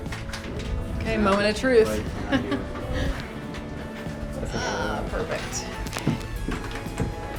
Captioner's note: laughing